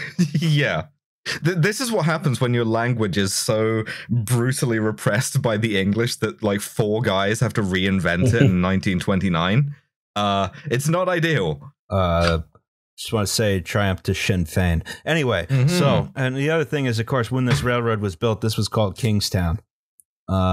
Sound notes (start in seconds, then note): 11.8 TASTY beer can snap